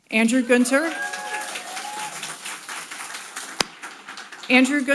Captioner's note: audience applauding